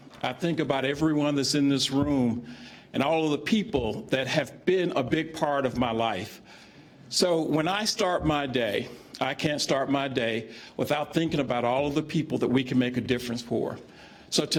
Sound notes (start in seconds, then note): none